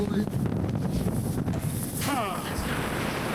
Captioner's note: man speaking foreign language; wind blowing